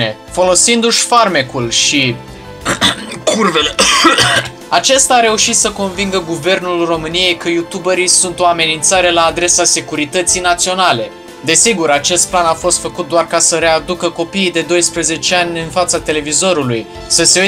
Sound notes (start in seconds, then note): 2.6 extreme coughing; 2.6 cough